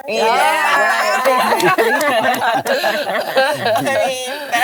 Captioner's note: hosts cheer